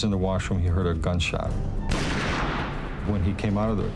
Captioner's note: gunshot